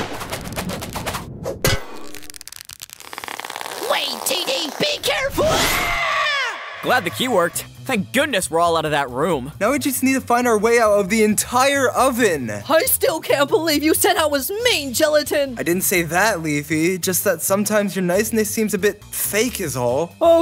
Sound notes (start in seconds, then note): 1.6 Stretching sound as Teardrop is lifted